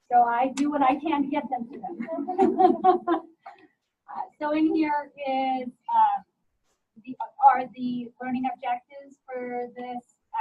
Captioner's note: students laughter